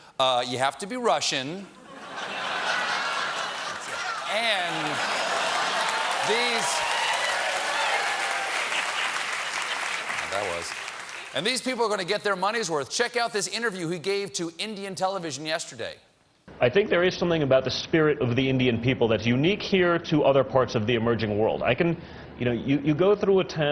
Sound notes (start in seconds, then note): 3.6 applause; 4.3 laughter